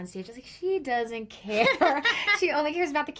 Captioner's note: laughs